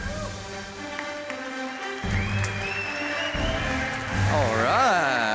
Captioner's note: cheers and applause